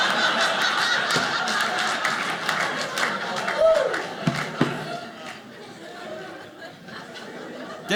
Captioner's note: audience laughing